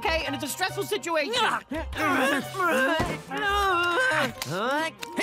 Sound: grunting

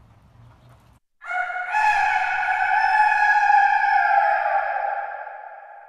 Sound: rooster crows

